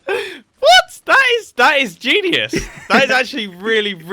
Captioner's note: laughs